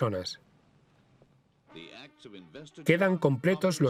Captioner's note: voiceover